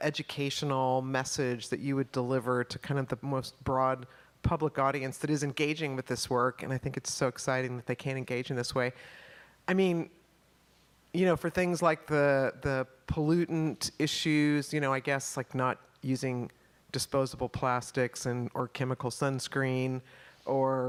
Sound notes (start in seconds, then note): none